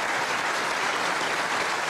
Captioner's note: applause